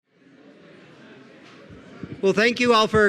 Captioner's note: people chattering